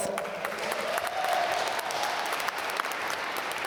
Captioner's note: applause